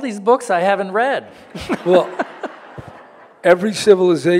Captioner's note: audience laughing